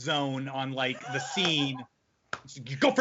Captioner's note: laughing